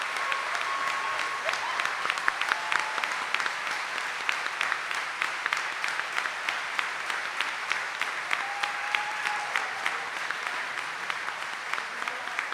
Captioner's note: audience cheering and applauding